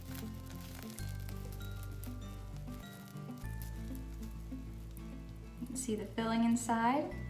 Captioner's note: crunchy sugar sounds